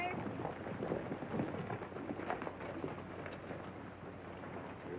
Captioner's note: horses galloping